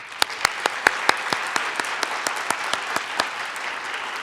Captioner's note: audience applauds